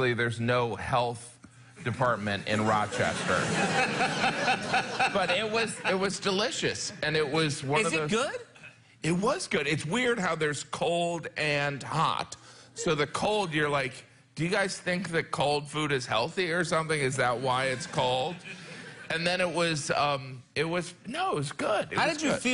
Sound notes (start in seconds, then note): 2.8 laughter